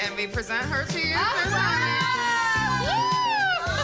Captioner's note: cheering